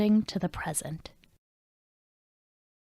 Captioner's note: silence